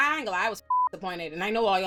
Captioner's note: beep